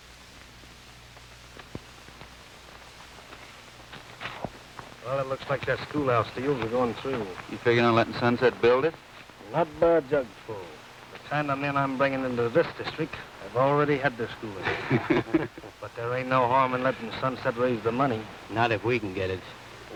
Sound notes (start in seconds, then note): 14.4 men laughing